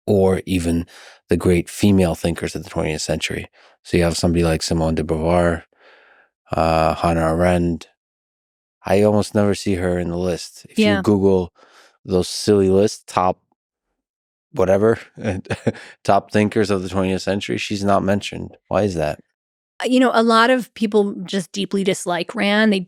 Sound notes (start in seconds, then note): 14.7 chuckles